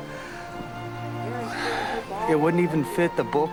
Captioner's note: sighs